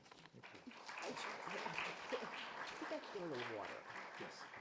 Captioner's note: audience applauding